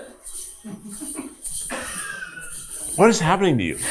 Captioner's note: crew members chuckling; hip scarf jingling